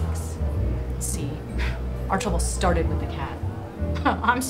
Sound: sigh

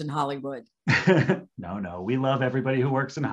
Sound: laughing

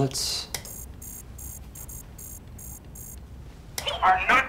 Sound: beeping

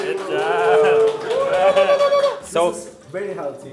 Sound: they applaud and cheer

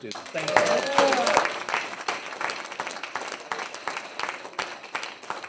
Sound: trustees applaud

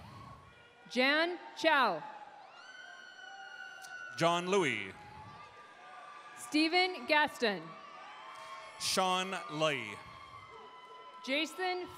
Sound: cheers and applause

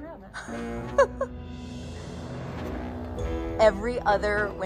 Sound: chuckles

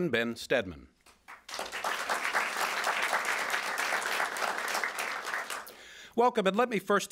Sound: applause

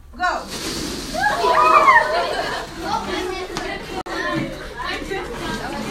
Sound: balloons releasing air

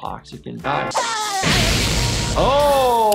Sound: lightning strikes, Spongebob screams

